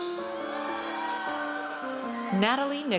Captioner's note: audience cheers